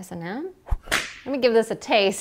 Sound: whip cracks

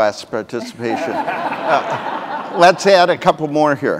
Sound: audience laughing

